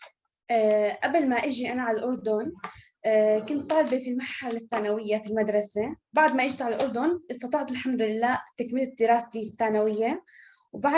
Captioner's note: non-english speech